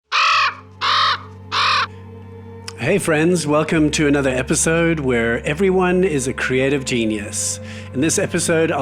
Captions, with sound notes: (bird caws) (calming music) - Hey friends, welcome to another episode where everyone is a creative genius. In this episode,